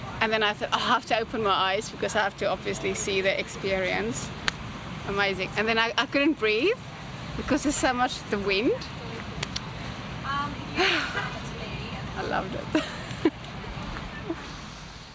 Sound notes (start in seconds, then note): 10.9 sighs; 13.5 laughs